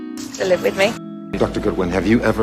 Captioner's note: voiceover